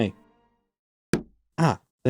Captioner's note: thonk